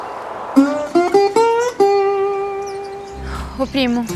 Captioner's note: birds